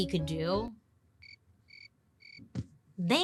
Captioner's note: crickets chirping